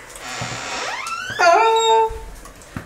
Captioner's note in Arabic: صرير الباب